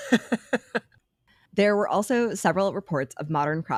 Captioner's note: laughing